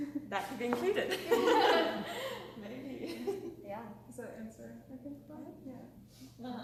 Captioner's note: laughter